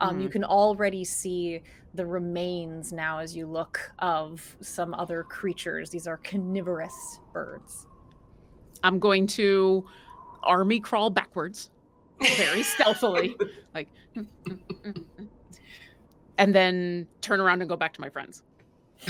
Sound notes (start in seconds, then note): 12.2 laughs; 14.4 hums